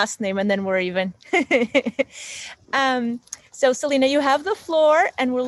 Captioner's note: laughs